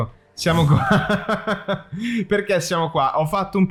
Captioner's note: random crazy laughter